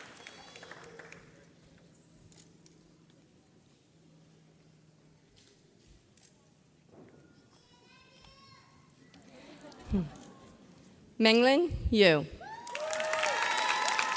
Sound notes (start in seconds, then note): 2.3 camera clicks